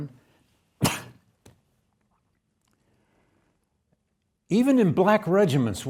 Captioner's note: lecturer coughing